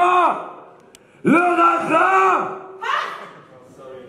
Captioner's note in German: Geschrei